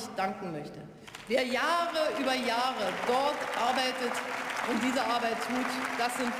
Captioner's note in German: Beifall